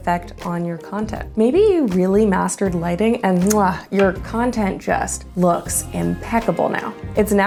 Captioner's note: muah